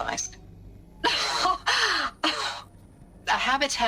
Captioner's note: exasperation noises